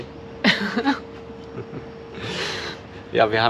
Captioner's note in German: lachen